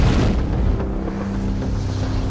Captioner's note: loud bang